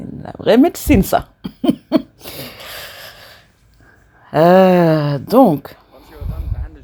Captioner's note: laughs